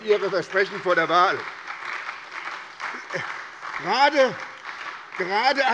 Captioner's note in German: Beifall bei der SPD